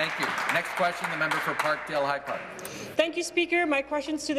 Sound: applause

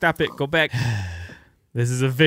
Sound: sigh

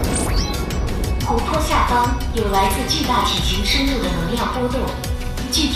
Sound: energy fluctuations of giant creature under the water

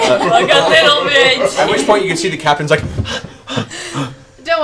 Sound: panting

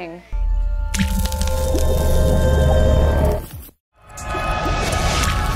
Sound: water splashing; intense electronic music

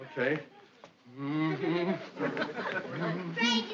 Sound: humming

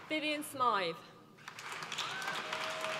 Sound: applause

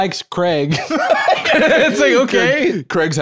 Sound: laughs

